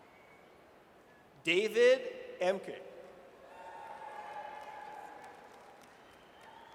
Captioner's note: audience cheers